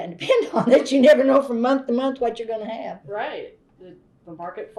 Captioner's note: laughs